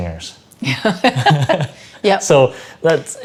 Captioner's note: laughing